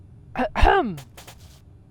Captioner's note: clears her throat